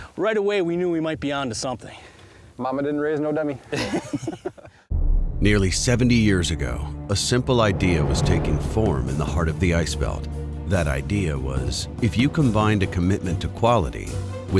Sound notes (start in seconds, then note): 3.7 both laughing; 5.6 voiceover